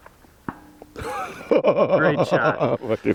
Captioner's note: pling